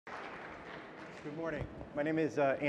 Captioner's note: audience applauding